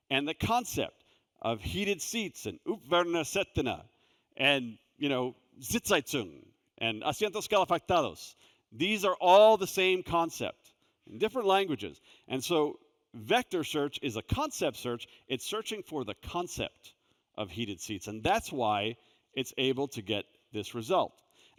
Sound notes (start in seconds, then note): 2.7 speaks foreign language